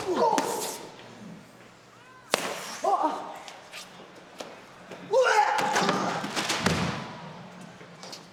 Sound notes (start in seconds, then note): 5.1 person yelling